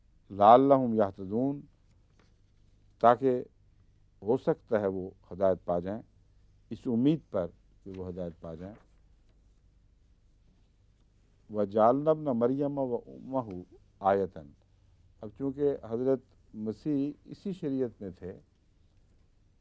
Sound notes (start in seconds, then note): 0.3 Arabic; 11.4 Arabic